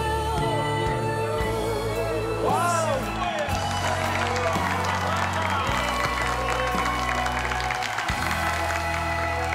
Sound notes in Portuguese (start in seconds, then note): 3.3 palmas